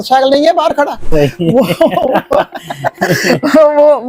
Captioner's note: laughter